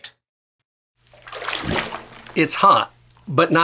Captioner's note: water rustling